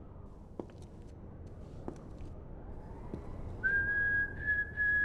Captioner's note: footsteps tapping; Chuck whistling